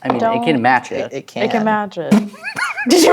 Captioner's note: stammering; laughs